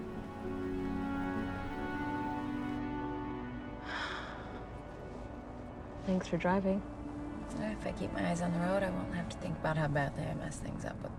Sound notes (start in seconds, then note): 3.8 sighing